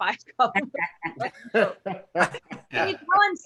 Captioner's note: laughs